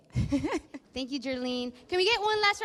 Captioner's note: laughs